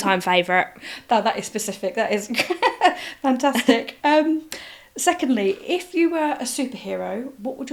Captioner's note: laughs